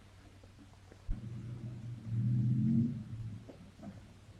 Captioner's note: engine rumbling